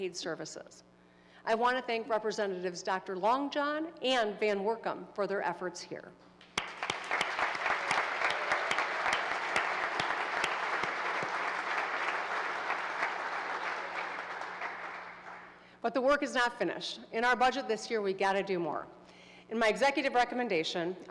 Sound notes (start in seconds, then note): 8.7 applause